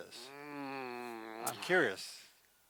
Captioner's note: groans